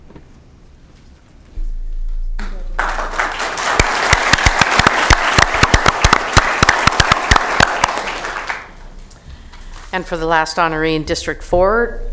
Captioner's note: applause